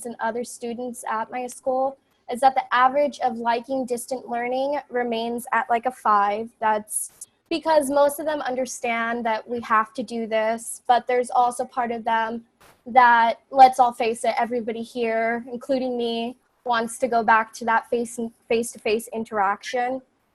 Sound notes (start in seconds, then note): none